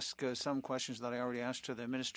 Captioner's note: speaking French